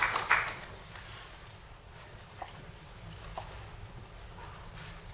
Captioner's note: applause